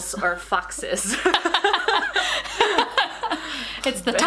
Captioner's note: both laughing